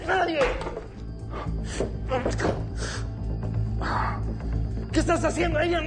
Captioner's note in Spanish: Quejidos